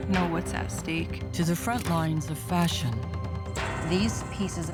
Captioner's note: camera shutter clicking